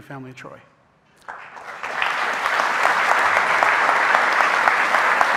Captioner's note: audience applauding